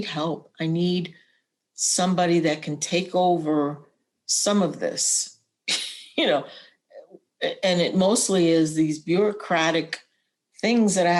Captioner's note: laughter